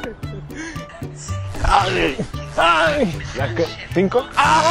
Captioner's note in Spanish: Gritos